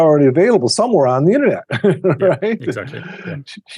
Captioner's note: chuckles